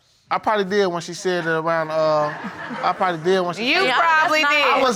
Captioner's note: audience laughing